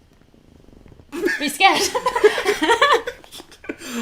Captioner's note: laughter